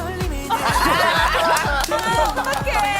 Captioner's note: laughing together